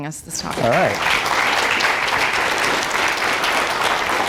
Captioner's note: applause